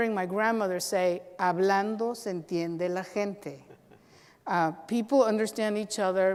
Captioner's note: speaks Spanish